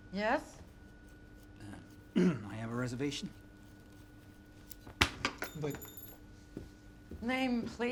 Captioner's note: clears throat